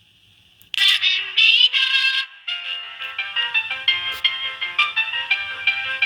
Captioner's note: television sounds